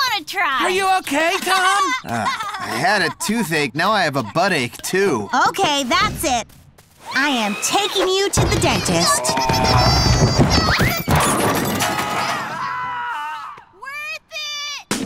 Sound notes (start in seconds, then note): 1.4 Ginger laughing; 8.4 Ginger squealing; 10.8 crash; 10.8 man screams